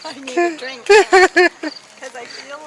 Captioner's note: laughing